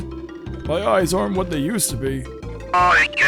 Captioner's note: old man voice